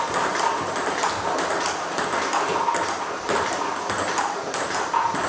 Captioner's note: ball ping pong hitting continues